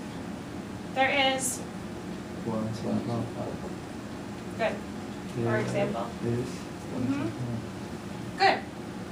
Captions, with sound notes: There is... - [Voiceover] One sofa. - Good, for example. Good.